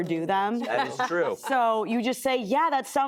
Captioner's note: laughter